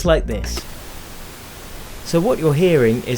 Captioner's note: pink noise audio